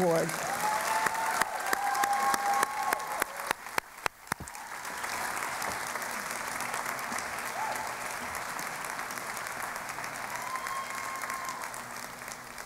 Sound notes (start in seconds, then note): 0.0 cheering and Applause